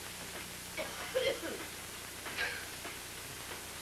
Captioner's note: gran coughs